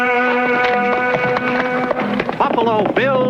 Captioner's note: horse galloping